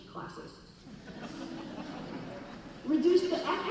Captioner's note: laughing